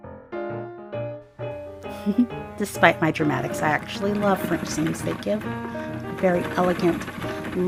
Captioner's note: giggles